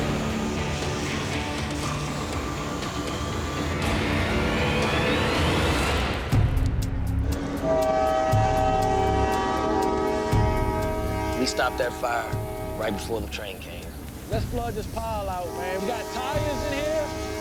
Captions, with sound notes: [horn blares] We stopped that fire right before the train came. Let's flood this pile out. We got tires in here.